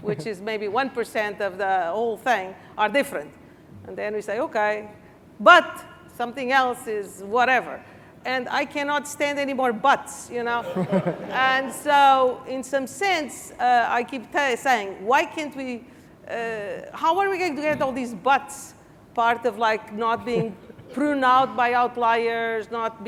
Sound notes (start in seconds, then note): 10.6 laughing